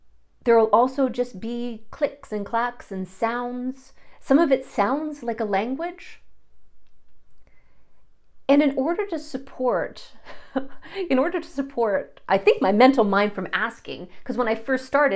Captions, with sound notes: There'll also just be clicks, and clacks and sounds. Some of it sounds like a language. And in order to support, [chuckle] in order to support I think my mental mind from asking, because when I first started